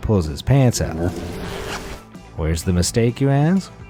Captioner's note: zipper pulling